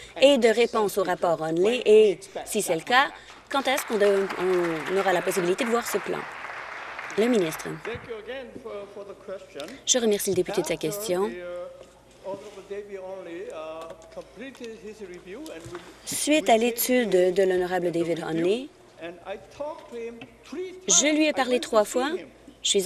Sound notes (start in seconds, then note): 8.2 applause